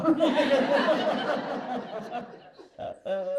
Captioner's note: laughter